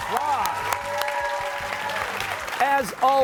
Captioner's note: applause